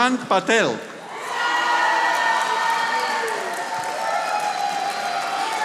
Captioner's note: audience applauding